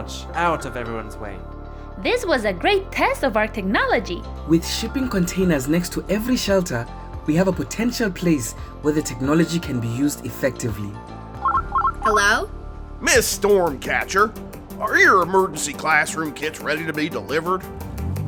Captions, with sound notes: out of everyone's way. - This was a great test of our technology. - With shipping containers next to every shelter, we have a potential place where the technology can be used effectively. (phone rings) - Hello? - Ms. Stormcatcher? Are your emergency classroom kits ready to be delivered?